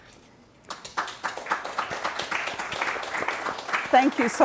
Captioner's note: attendees clapping